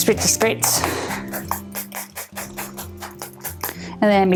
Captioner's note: bottle spraying